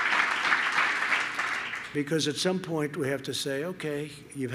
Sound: applause

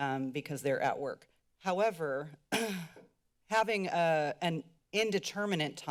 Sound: clears throat

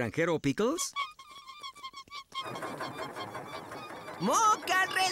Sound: squeaking

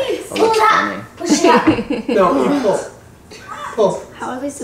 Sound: laughing

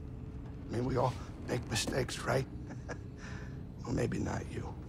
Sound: soft chuckle

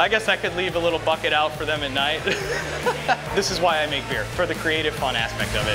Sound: laughter

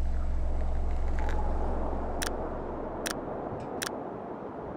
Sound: breeze loudly blows

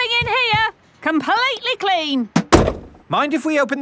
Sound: none

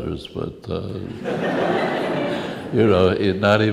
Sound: laughs

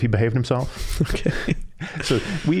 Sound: chuckling

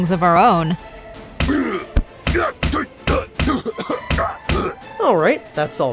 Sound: Dr. Doom grunting

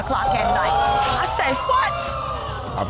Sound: audience gasps

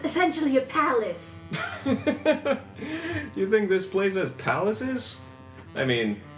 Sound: laughs

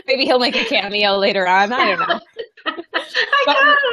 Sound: laughing

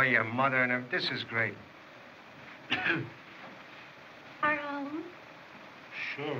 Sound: coughs

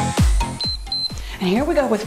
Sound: timer beeps

